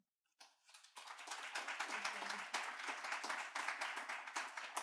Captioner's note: audience clapping